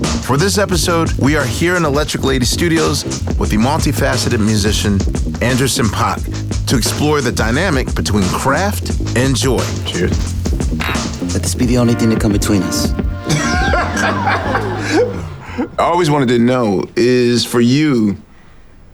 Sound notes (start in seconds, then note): 13.2 both laughing